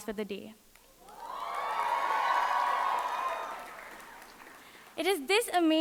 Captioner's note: audience cheering and applauding